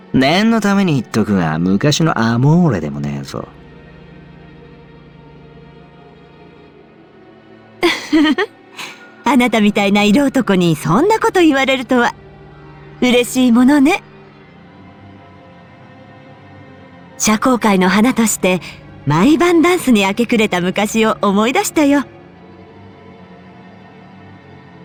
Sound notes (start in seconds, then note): 7.8 laugh